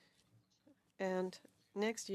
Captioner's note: speaking French